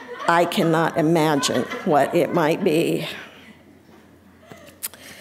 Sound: audience laughing

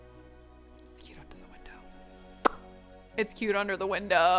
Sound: pops lips

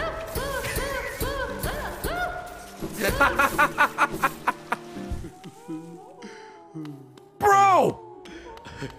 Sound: laughs

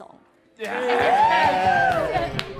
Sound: crowd cheer

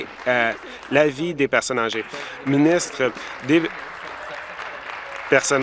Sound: applause

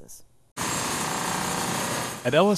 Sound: saw machine roaring

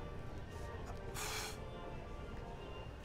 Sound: phew

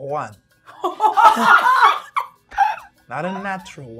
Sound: gamers laughing

